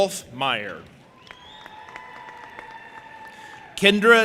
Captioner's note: audience applauding and cheering